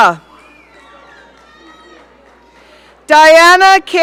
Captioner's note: audience cheering